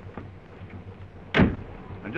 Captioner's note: door slams